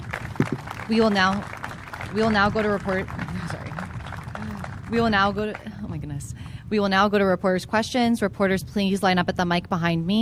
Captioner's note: applause